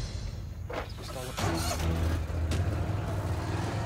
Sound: engine starting

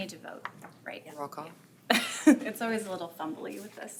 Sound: laughing

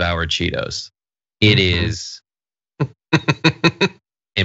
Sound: laugh

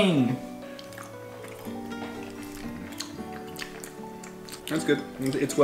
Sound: chewing loudly

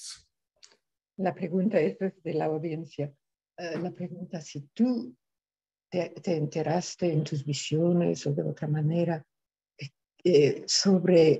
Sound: speaking in spanish

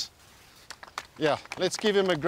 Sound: applause

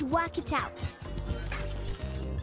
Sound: beeping

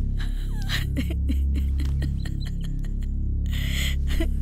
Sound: sobs uncontrollably

